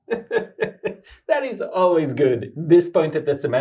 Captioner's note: laughs